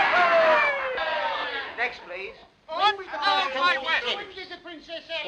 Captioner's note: men shouting